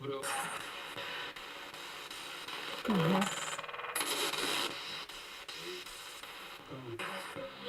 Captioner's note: sound of the Spirit Box in the background